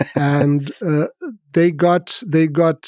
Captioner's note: Lex laughs